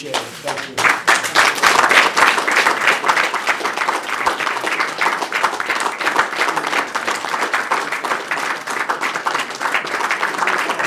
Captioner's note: applause